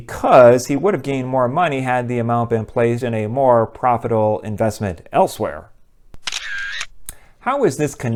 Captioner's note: camera shoots